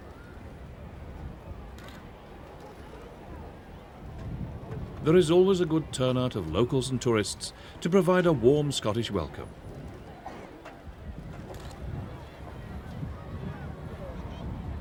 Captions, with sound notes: There is always a good turnout of locals and tourists to provide a warm Scottish welcome. (cameras clicking)